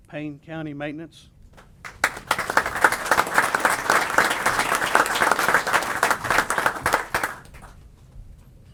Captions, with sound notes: Payne County maintenance. [APPLAUSE]